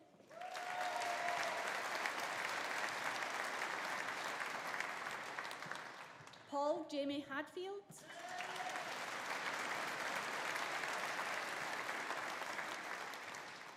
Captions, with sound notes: (AUDIENCE APPLAUDING) (AUDIENCE CHEERING) Paul Jamie Hadfield. (AUDIENCE APPLAUDING) (AUDIENCE CHEERING)